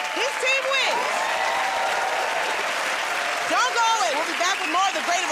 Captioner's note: cheers and applause